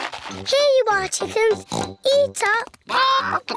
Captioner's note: oinks